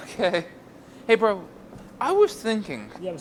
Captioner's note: laughs